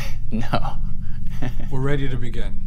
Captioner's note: laughs